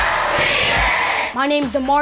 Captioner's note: group Shouting